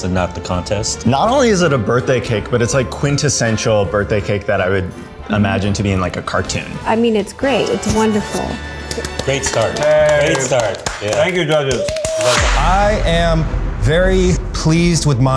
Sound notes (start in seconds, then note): 8.7 clapping